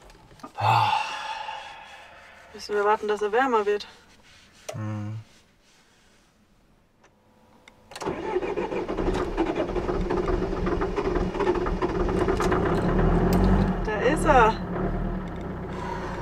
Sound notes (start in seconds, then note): 12.1 engine starts